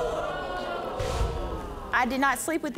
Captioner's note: audience exclaiming